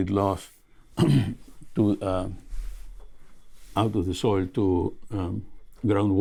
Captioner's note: clears throat